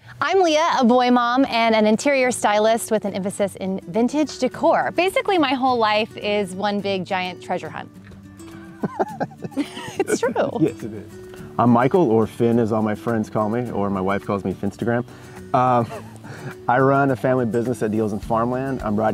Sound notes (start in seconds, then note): 8.5 laughs; 8.5 laughing; 15.7 laughs